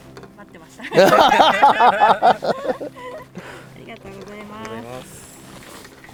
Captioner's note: laughs